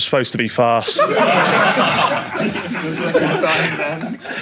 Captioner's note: audience laughs